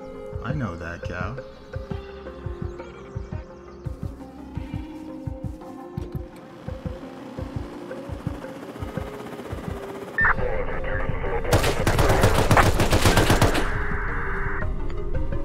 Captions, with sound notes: I know that cow... [helicopter blade whirring] [gunshots]